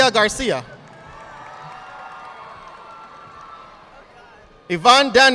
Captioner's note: audience applauding